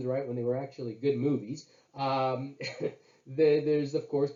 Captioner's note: laughs